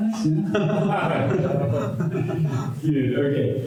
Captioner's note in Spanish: risas